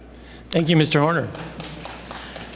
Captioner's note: applause